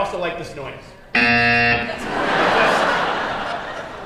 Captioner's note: buzzing